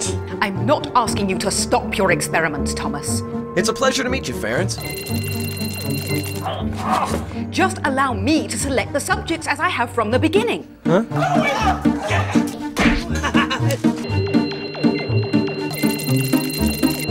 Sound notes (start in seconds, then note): 4.8 laboratory machinery beeping; 6.2 gasping; 11.2 fighting and screaming; 12.4 loud slam; 12.9 crazy laughing; 14.0 laboratory machinery beeping